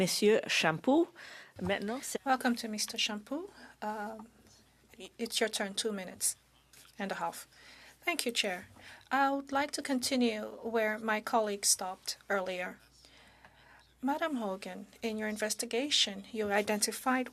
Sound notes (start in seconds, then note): 2.8 speaking in French